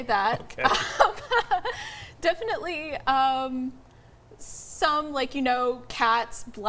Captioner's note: chuckles